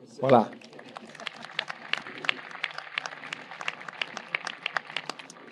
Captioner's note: audience applauding